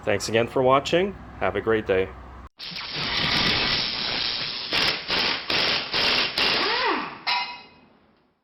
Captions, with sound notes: Thanks again for watching. Have a great day. (drilling sounds)